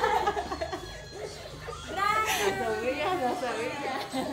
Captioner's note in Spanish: risas